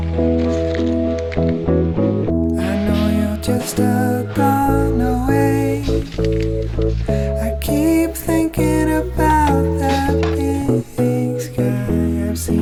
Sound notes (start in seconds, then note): 0.8 rustling